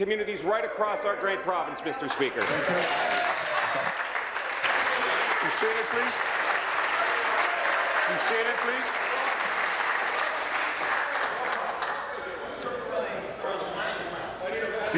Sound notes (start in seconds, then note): 6.1 applause